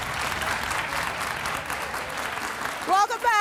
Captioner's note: audience applauding